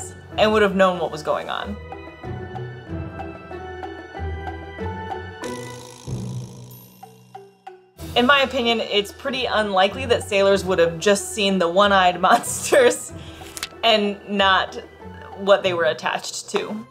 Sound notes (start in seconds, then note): 1.9 background music; 12.9 laughs